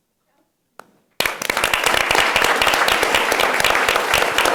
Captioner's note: everyone applauds